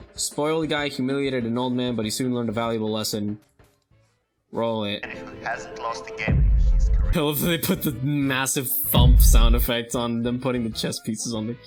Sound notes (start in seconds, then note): 6.3 unrealistically loud thump